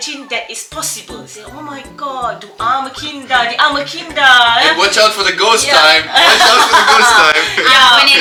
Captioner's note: speaking German; laugh